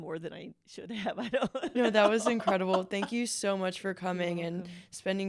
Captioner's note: laughter